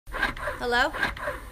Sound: loud breast pump sounds

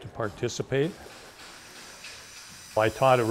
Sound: machine buzzing

